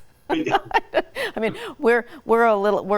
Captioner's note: laughing